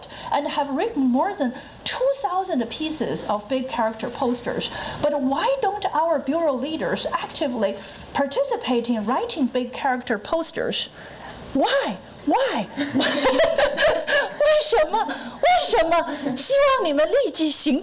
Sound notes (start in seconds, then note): 12.8 laughing; 13.6 foreign language